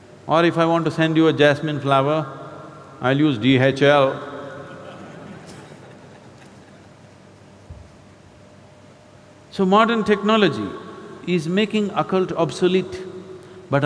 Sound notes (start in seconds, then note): 4.6 laughter